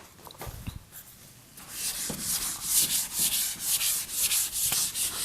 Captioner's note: eraser wiping board